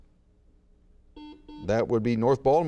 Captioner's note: buzzer beeps